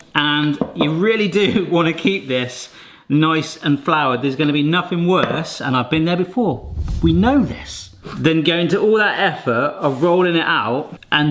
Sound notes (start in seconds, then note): 6.5 camera whooshes